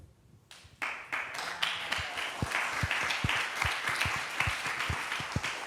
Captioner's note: applause